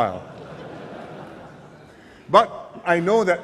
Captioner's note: laughter